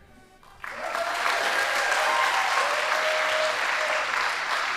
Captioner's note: audience applauding